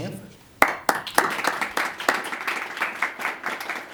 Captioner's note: applause